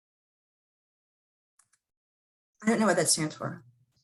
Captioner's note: silence